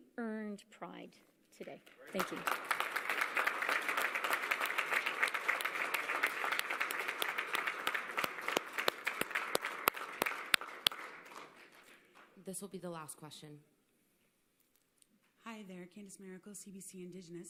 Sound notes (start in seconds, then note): 5.1 applause